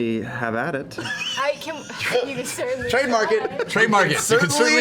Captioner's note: laughs